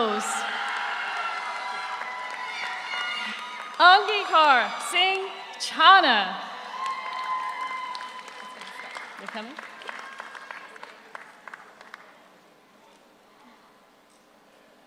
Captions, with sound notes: (audience cheers) (audience applauds) Angikaar Singh Chana. (audience cheers) (audience applauds) Are you coming?